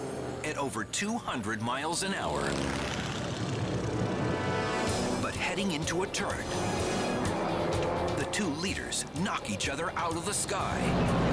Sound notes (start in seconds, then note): 2.2 engine roars